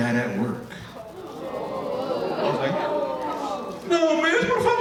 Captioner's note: audience booing